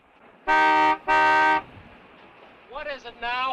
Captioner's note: horn honking